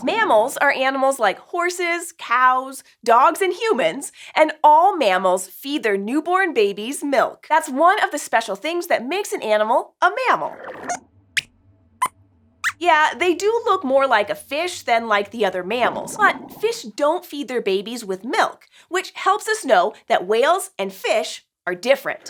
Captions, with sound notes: Mammals are animals like horses, cows, dogs, and humans. And all mammals feed their newborn babies milk. That’s one of the special things that makes an animal a mammal! [Squeaks squeaks] Yes, they do look more like a fish than like the other mammals. But fish don’t feed their babies with milk, which helps us know that whales and fish are different.